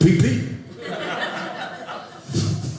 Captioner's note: audience laughing